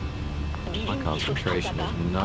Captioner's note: radio chatter